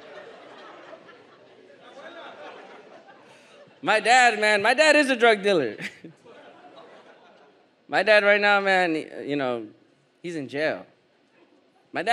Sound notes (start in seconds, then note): 2.0 audience member shouts in a foreign language; 5.8 audience laughs